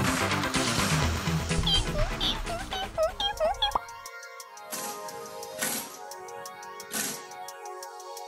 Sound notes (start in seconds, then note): 1.6 squeak; 3.6 pop